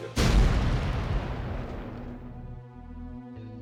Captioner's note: loud explosion